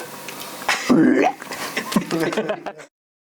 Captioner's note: some other burp